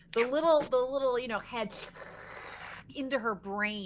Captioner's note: hisses